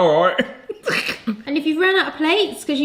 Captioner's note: laughing